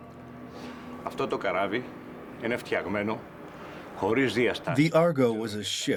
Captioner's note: speaking Greek